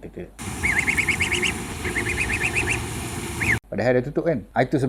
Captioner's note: duckling sound